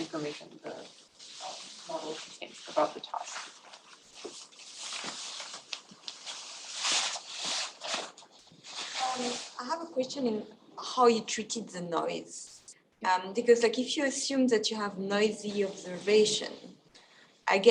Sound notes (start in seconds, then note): 4.0 scuffing noises